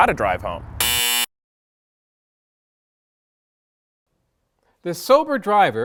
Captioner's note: error sound